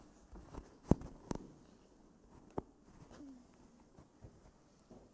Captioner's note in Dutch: stilte